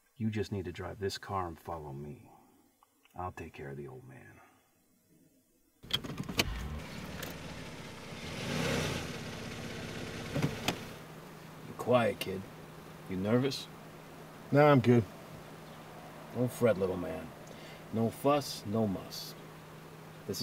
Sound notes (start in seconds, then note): 6.2 engine revving